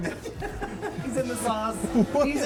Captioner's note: laughing